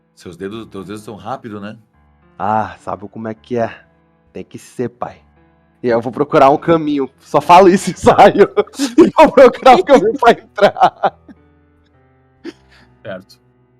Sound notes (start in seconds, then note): 7.8 laughs; 10.5 laughter